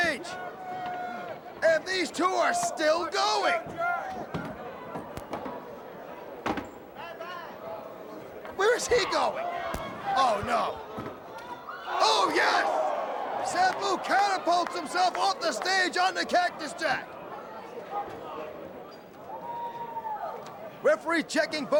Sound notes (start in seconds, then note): 3.5 crowd chatter; 17.4 crowd chatter